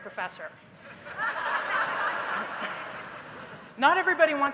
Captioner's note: laughter